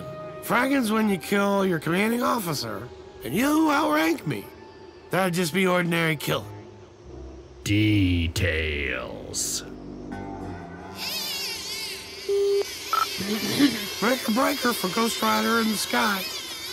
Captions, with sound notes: Fraggin's when you kill your commanding officer, and you outrank me. That'd just be an ordinary killin'. ...details.......... [ CB radio mic ] (clears throat) Breaker breaker for 'Ghost Rider In The Sky'...